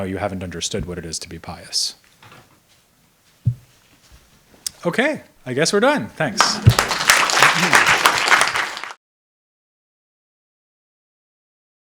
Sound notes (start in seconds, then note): 6.3 audience applauding